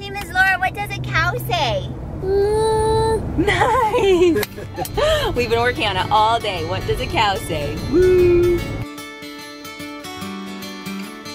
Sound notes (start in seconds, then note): 3.4 laughs; 8.7 banjo music